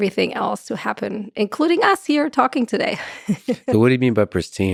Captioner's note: laughs